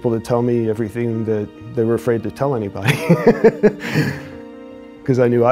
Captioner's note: chuckles